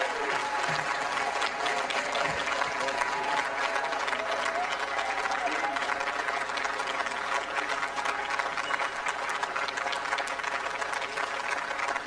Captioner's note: applause